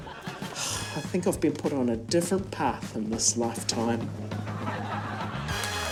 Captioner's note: sighs; laughter, applause